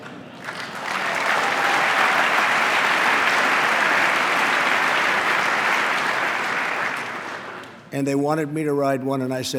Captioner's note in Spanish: aplauso